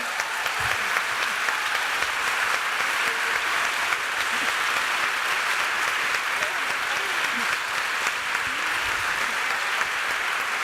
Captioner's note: cheers and extended applause